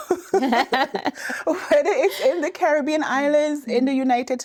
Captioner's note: laughing